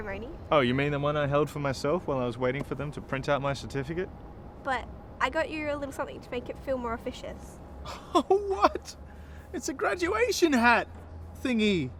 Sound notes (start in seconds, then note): 7.8 laughing